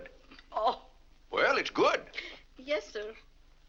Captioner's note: laughs